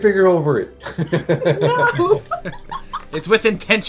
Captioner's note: laughter